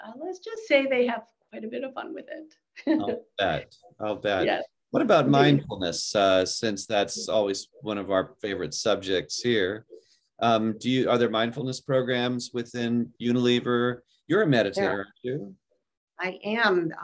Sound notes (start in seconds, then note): 2.8 chuckling